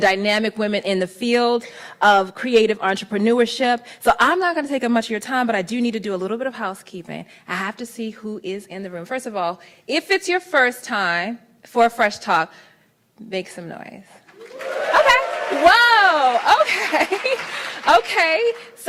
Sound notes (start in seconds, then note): 14.2 applauds; 14.3 cheers; 16.4 laughs